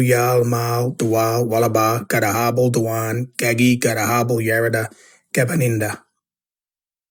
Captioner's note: narrator speaking in Kamilaroi language